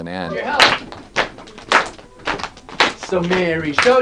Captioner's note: clapping